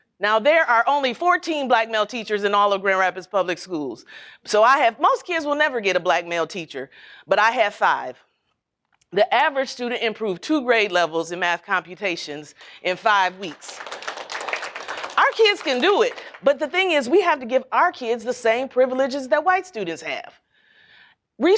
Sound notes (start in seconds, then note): 13.1 applause